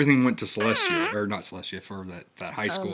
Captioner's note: whoopie cushion sound effect